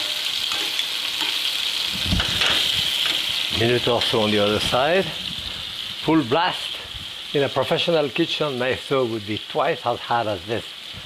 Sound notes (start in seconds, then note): 0.4 tongs clatter; 2.2 pan clatters